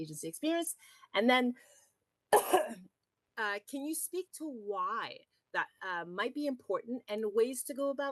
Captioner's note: toux